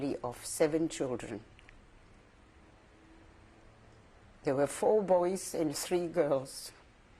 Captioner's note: pauses for 3 seconds